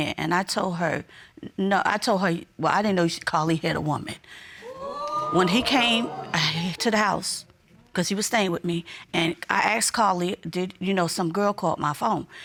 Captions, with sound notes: And I told her no, I told her-- "Well, I didn't know Kalif had a woman." -[audience exclaiming] -When he came to the house, because he was staying with me, and I asked Kalif, "Did you know some girl called my phone?"